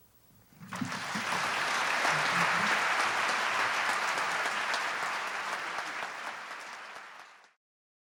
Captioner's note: applause